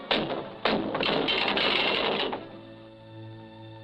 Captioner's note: chain rattles